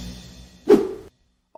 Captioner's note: whoosh